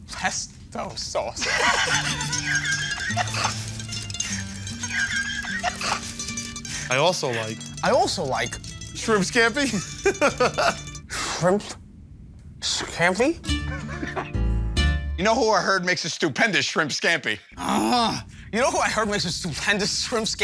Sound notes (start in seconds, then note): 1.4 laughter; 9.7 laughter; 11.3 slurs excessively; 13.6 laughter